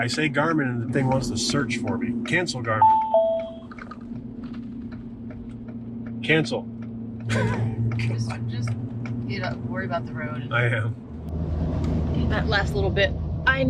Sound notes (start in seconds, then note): 2.8 GPS dings